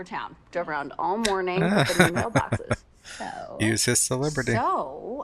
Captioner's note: laughing